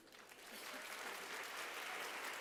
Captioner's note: applause